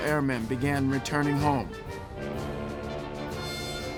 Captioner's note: ship's horn blasting